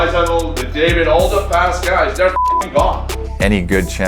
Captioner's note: beep